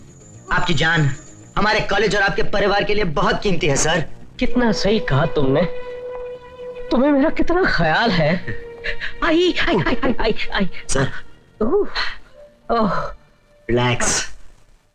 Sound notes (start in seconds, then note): 8.8 groaning; 11.6 sighs